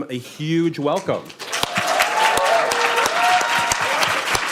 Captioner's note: applause